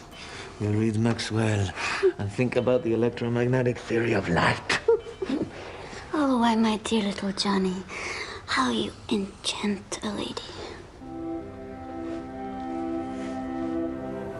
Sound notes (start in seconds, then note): 4.6 <i> giggling</i>